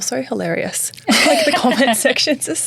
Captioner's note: laughing